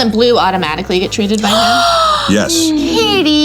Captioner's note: gasps